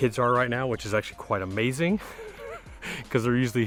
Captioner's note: laughing